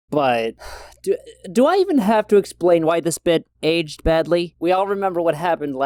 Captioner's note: sighs